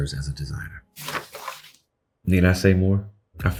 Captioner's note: pages shuffling